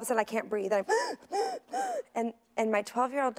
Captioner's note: gasping